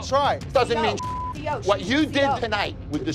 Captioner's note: beep